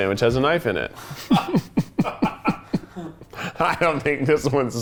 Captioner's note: laughs